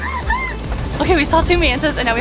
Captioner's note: excited screaming